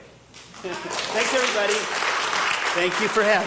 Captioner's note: audience applauding